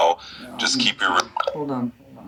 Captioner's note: phone chimes